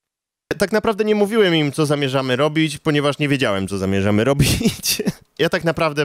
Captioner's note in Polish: śmiech